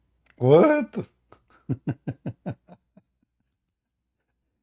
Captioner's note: Ketawa